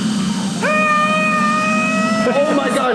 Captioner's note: screams